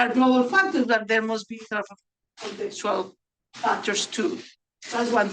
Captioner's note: speaks faintly